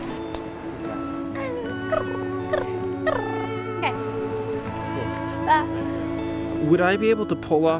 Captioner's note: purring